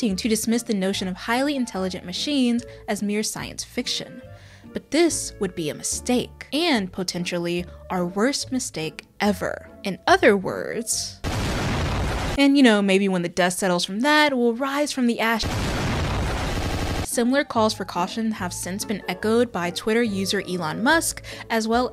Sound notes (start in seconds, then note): 11.2 loud explosion